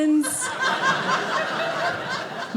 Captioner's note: audience laughing